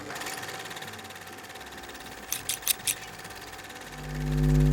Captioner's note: sewing machine whirring